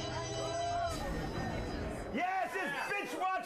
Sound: sinister organ music; jail door slamming

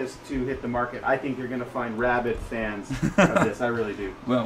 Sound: laughs

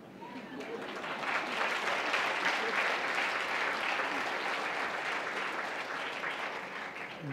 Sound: applause

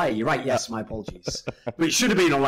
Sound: laughs

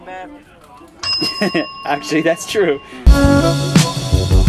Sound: laugh

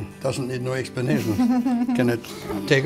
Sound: chuckles

